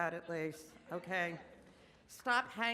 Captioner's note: audience laughs